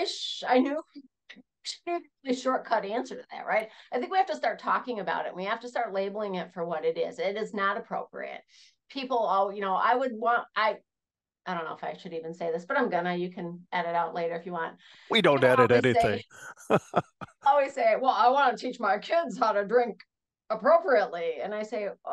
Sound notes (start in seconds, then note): 17.2 laugh